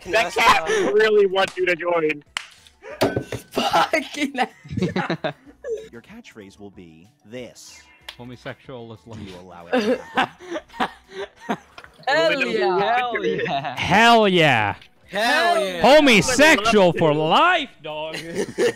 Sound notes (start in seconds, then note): 2.9 glass sounds, says while laughing